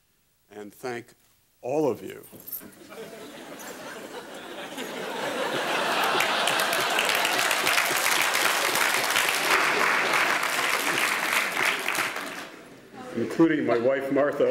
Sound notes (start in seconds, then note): 2.6 laughing